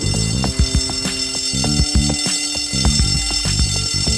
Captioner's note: bell dinging